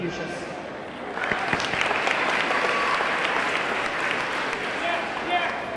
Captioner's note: audience clapping; audience cheering